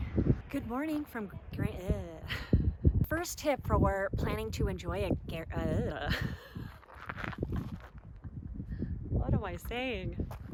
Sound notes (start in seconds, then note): 0.2 traffic sounds in the background; 6.0 laughter